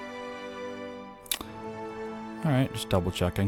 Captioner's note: annoyingly loud lip smacking